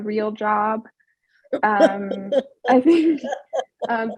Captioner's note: laughs